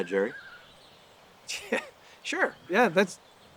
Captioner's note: chuckles